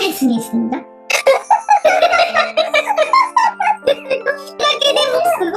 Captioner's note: laughs